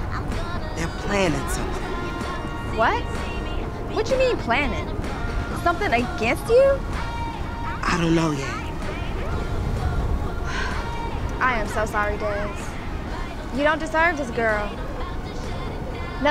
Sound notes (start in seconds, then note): 10.4 sighs